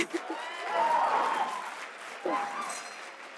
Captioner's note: audience applause